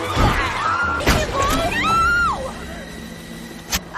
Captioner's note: crash; scream